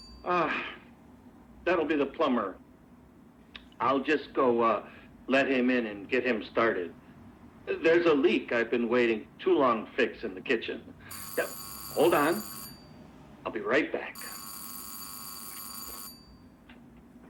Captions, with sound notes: Ah, that'll be the plumber. I'll just go let him in and get him started. There's a leak I've been waiting too long to fix in the kitchen. [Doorbell rings] Hold on. I'll be right back. [Doorbell rings]